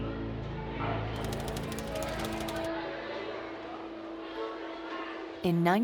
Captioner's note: text clicking